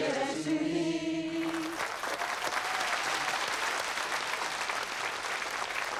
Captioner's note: audience applauding